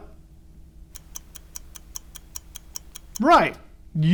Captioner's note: clock ticking